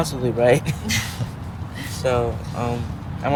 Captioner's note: all laughing